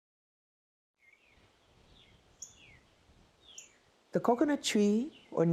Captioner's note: birds chirping